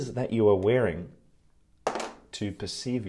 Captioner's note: sunglasses tapping